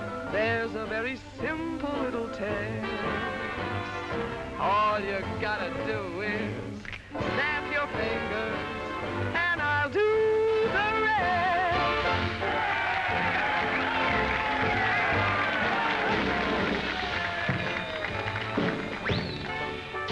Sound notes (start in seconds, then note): 12.0 crowd cheering & applauding; 18.5 swanky music